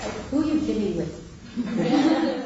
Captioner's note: laughing